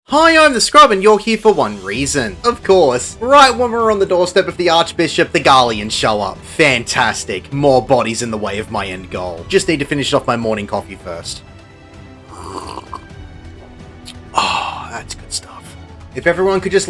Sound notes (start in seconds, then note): 12.2 slurp